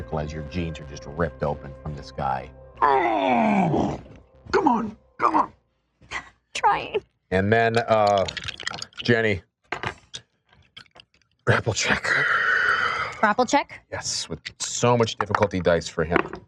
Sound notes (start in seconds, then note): 2.8 groans in agony; 6.4 whimpers